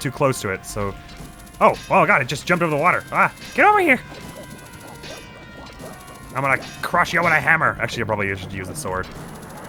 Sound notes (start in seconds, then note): 6.2 crooked voice